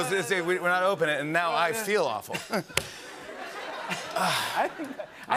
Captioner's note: laughter